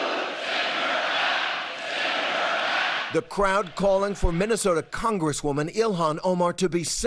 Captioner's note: audience reacts; chanting "send her back"